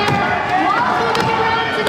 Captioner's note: crowd cheering